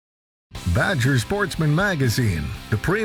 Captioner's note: voiceover